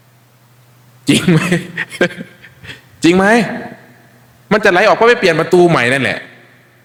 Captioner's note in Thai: เสียงหัวเราะ